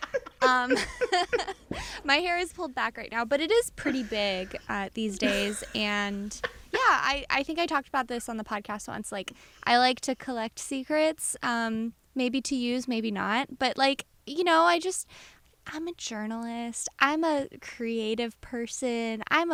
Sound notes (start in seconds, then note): 0.0 laughter